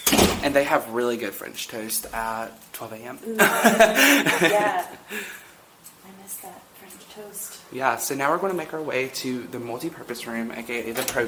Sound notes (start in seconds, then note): 3.3 both laughing